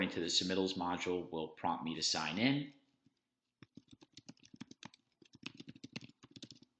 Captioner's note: keyboard clacking